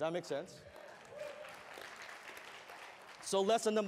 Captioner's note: applause